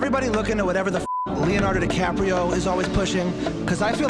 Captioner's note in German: Piep